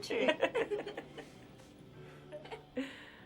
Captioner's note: ladies laugh